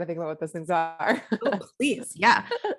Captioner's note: laughs